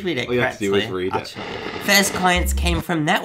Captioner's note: buzzing